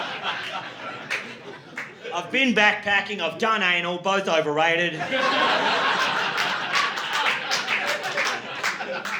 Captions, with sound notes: (audience laughing) I've been backpacking, I've done A and all, both overrated. (audience laughing)